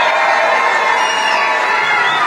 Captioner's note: applause